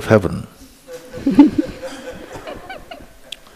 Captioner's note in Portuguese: risos